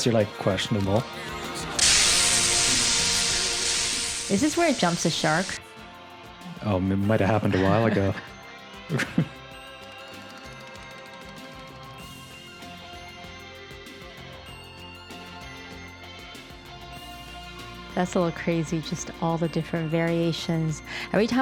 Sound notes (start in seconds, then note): 1.7 static discharging; 8.9 both laugh; 12.0 rock music